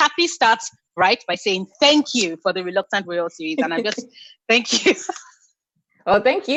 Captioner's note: giggling